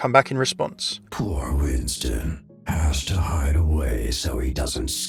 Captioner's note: voiceover